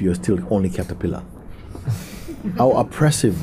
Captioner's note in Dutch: zacht gelach